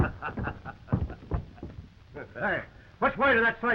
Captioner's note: Jim laughing